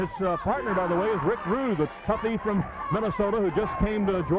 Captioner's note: wrestlers grunting